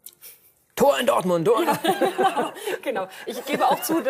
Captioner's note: laughs